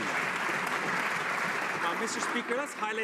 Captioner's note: some Applause